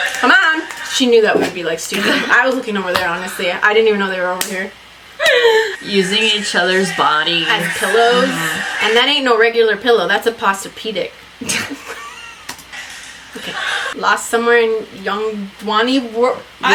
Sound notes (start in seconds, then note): 5.2 laughs; 11.4 both laugh